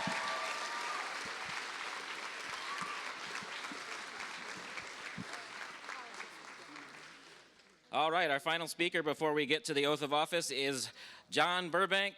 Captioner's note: cheers and applause